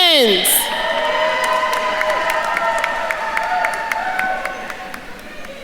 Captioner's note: attendees cheering and applauding